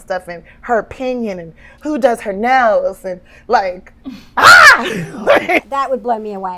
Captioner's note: shrieking